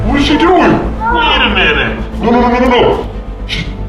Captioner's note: groans